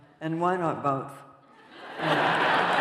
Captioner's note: laughter; applause